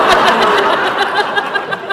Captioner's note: laughter